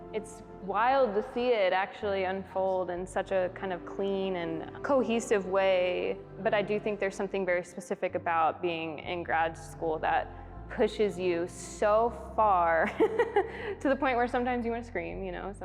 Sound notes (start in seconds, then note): 13.0 laughs heartily